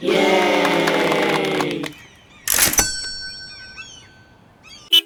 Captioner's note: yayyy .. cash register ring